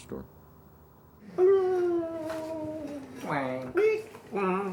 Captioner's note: vocalize